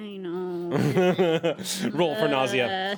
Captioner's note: man laughs